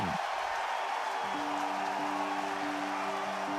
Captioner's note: crowd cheers